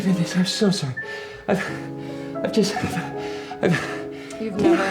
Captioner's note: panting